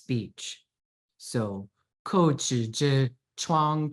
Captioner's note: speaking in Chinese